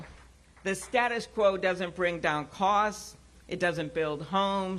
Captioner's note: applause